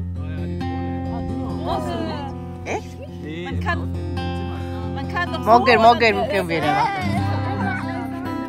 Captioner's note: speaking German